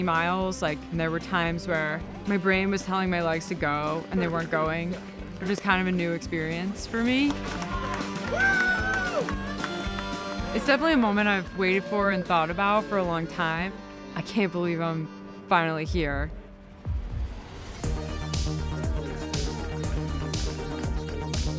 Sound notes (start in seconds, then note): 7.4 cheering; 7.8 ambient music; 17.5 upbeat music